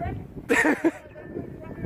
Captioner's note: hater laughs